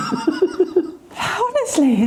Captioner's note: laughing